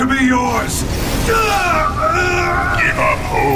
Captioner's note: groans